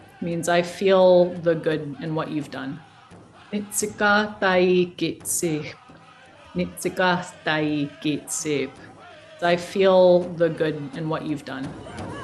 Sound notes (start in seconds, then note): 2.9 woman speaking in a foreign language; 12.0 native tribe singing in a foreign language